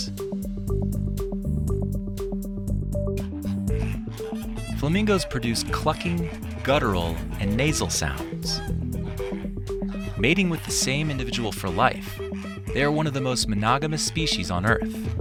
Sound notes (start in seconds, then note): 8.5 flamingos clucking